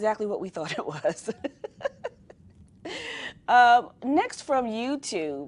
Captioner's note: laughing